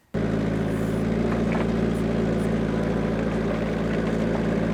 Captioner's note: engine rumbles